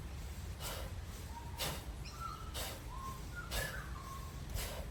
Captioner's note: audible breaths continue